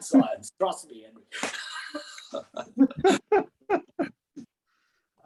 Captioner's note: they laugh